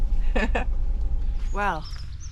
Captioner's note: chuckles